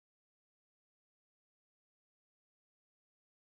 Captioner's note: none